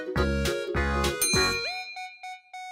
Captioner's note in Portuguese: Música ao fundo; Som de brilho